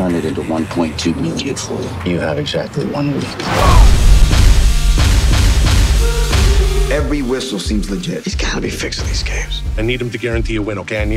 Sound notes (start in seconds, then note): 3.6 grunts